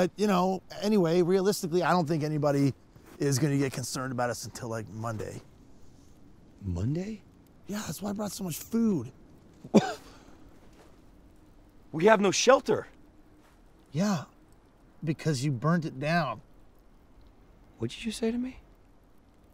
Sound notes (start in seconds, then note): 9.3 scoffs